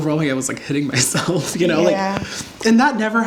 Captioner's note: laughs